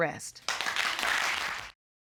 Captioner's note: audience applauding